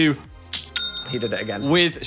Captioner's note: cash register dings